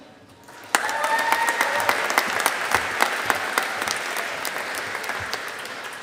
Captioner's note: audience applauding